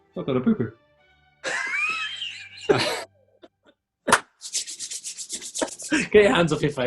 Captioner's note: laughing